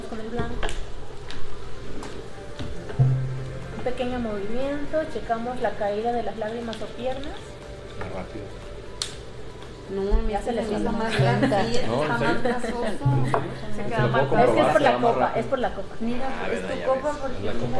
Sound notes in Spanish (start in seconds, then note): 11.0 risas; 16.1 voces